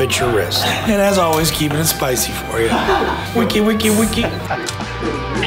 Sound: record Scratching Noises

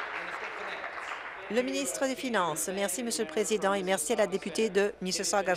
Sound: applause

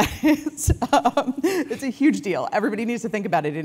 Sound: laugh

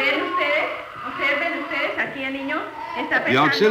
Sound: speaking Spanish; baby crying

